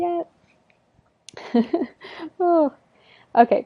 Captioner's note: laughs